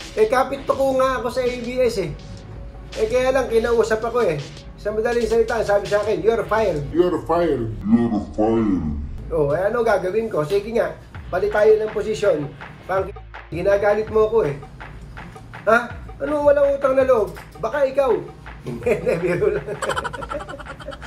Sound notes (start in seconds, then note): 18.7 laugh